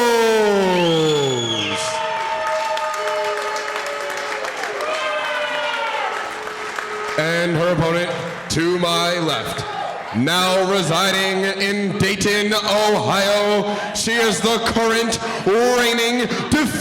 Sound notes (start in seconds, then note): 0.0 cheering; 4.2 applause